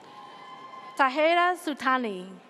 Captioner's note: audience cheers